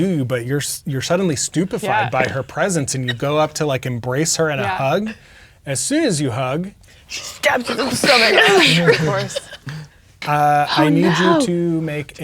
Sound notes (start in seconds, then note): 9.9 laughing